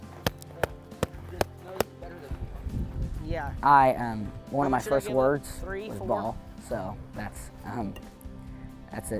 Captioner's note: smacking baseball glove